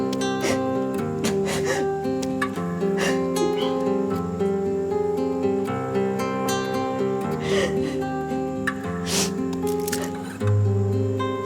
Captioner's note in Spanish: Continúan los sollozos